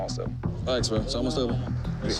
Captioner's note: indistinct chatter